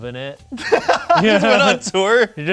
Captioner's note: laughs